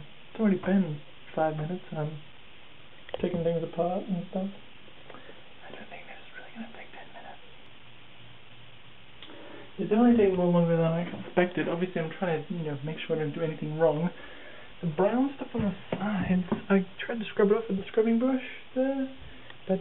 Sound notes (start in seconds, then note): 5.6 whispering